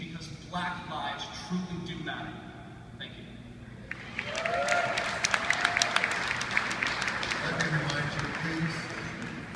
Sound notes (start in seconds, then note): 3.9 cheering, applause